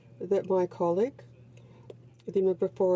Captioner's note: speaking in french